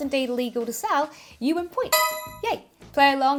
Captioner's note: bell chiming